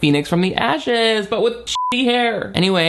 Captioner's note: beep